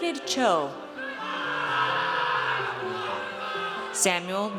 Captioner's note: audience cheers